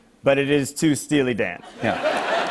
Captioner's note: laughter